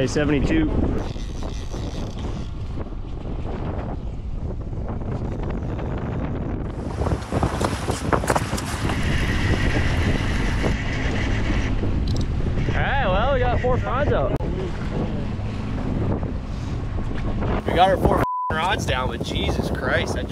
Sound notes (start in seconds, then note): 5.8 wind rustling; 9.3 reel whirs; 18.1 beep